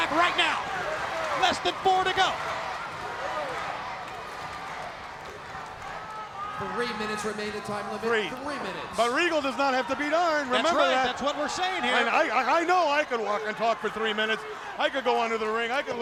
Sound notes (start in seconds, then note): 3.1 crowd cheering